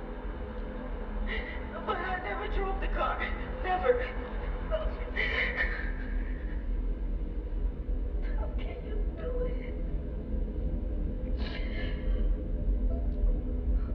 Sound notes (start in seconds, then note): 5.1 whimpering